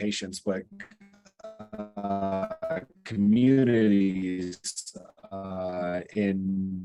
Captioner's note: audio glitching